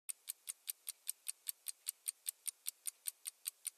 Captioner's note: clock ticks